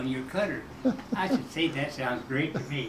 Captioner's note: chuckling